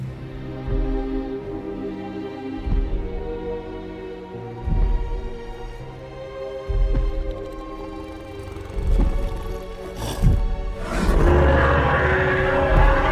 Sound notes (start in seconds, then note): 0.7 footsteps approach; 7.0 low growl; 11.0 roar